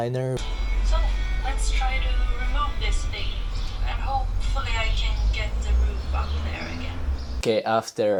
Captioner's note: Youtube video playing